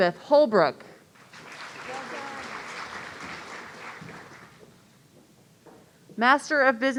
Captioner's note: audience applauding